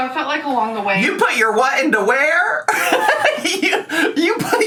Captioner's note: laughs